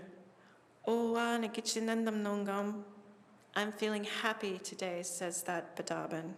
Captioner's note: non-english speech